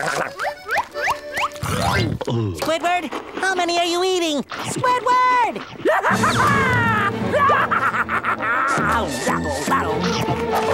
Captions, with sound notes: Squidward! How many are you eating?! Squidward! [laughing]